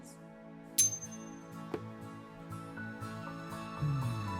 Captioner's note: spoons clink; calm music